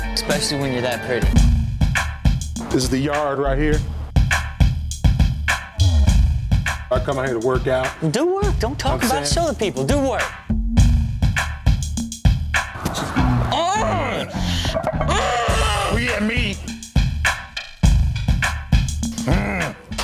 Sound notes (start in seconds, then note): 4.6 funky beat; 11.2 funky beat; 15.0 Rob grunting; 17.4 funky beat; 19.1 grunting